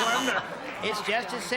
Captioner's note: buzzer